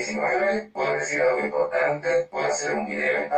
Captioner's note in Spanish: Voz Robotico